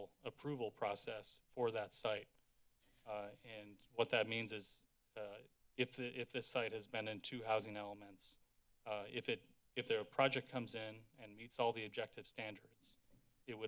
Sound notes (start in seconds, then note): none